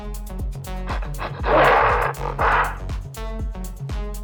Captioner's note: angry ape sounds